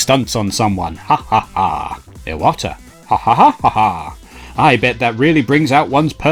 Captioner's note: laughs